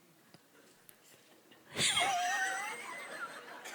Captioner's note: Guruji Laughs